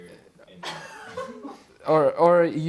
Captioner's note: chuckling